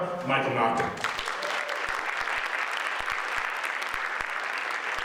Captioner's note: audience applauds